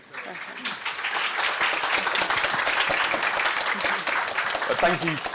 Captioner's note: applause